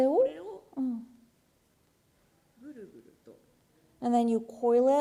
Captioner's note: speaking japanese